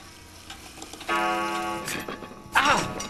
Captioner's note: clock chimes loudly